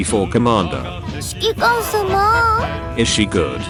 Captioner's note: horny Taihou noises